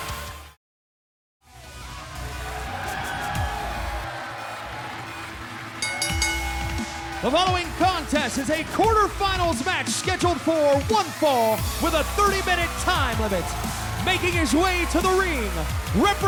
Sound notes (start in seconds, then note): 1.8 crowd cheering; 1.8 upbeat dubstep music; 5.7 bell ringing